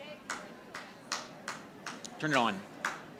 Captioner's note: audience applauding